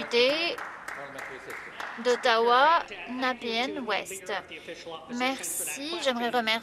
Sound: some Applause

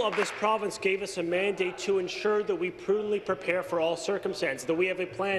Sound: applause

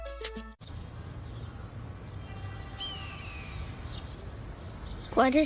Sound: birds cawing

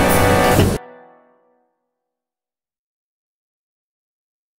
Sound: silence

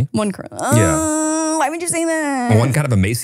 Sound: groans

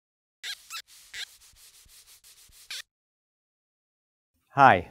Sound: marker on white board

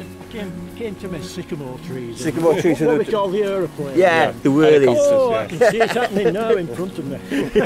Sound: talking and laughing

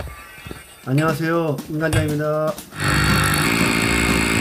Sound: voiceover

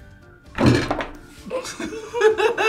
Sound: table thumps; laughs

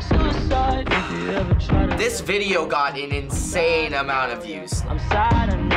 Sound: sighs

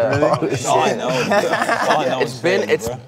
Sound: all laugh

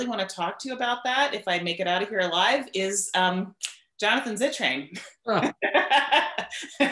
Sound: laughs

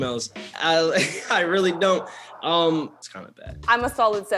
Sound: laughter

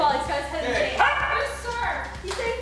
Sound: dog barks

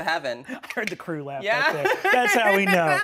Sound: laughing

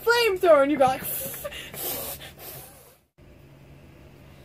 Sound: blows raspberries

